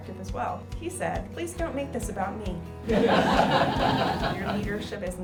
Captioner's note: audience laughing